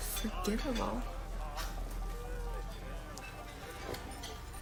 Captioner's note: chuckles